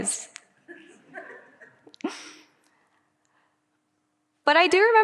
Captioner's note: audience laughing